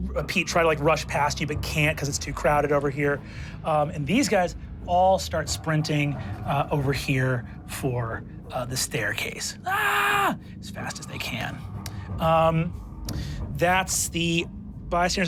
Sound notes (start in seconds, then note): 9.6 yells